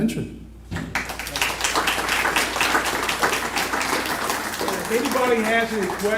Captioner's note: applause